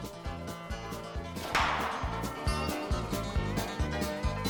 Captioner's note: gun fires